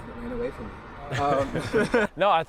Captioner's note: laughs